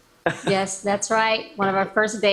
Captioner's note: laughs